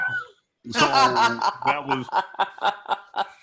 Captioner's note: laughs